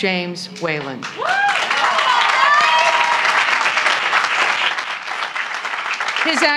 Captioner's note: applause